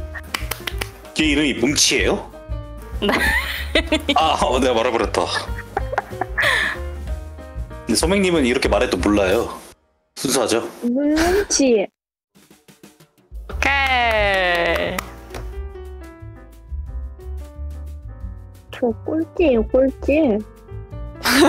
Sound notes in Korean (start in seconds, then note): 0.2 박수; 13.6 박수